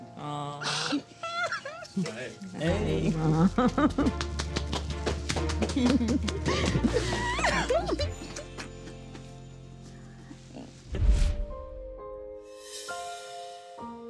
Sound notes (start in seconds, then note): 0.6 crying; 11.2 gentle music